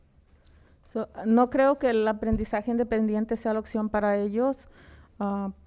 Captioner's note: speaking in foreign language